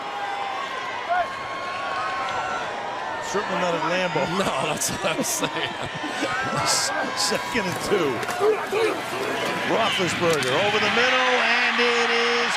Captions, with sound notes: And it is caught for a touchdown. Mike Wallace. [crowd cheering]